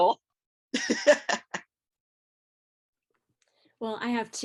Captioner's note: laughing